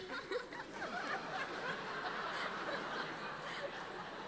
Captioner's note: audience laughing